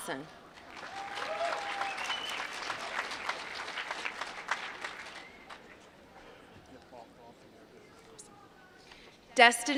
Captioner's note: applause